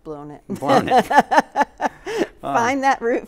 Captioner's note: both laughing